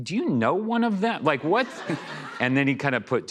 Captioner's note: laughter